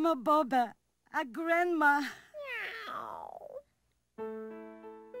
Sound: cat meows; sentimental piano music

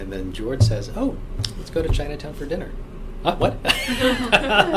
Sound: all laugh

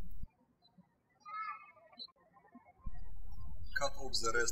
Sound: birds chirping

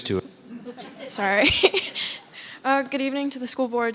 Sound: laughs

